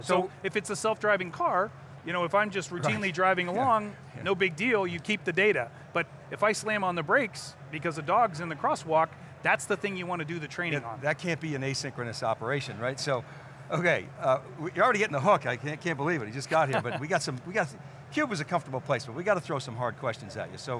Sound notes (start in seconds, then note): 16.5 laughs